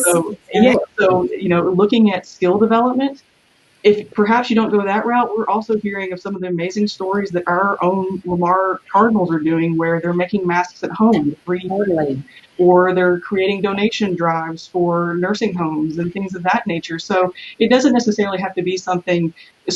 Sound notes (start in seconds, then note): 11.7 murmurs